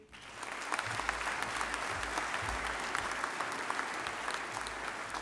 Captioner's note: audience applauding